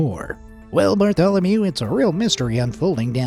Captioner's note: in a news reporter voice